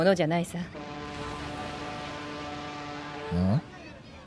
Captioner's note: sound of a horn blaring